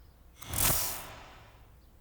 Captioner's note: metallic clink